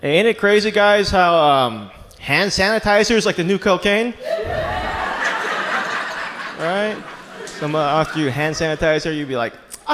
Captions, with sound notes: Ain't it crazy, guys, how hand sanitizer is like the new cocaine? (audience laughs) Someone offer you hand sanitizer, you be like,